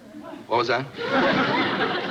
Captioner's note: laughs